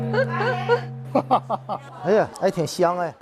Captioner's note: hahahaha